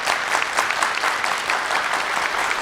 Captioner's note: clapping